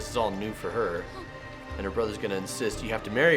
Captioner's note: Daphne gasping